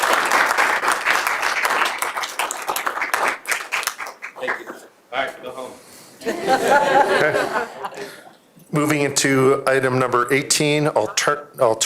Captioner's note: applause